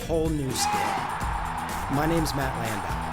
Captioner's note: crowd cheering